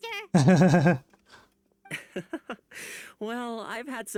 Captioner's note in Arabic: يضحك